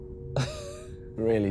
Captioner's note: both laughing